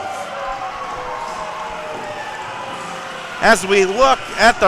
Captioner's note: audience cheering